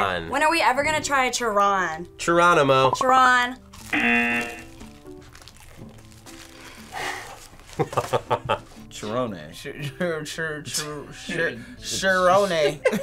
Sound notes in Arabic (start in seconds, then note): 3.9 طنين الجرس; 7.7 يضحك